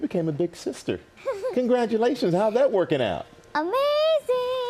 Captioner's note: laughing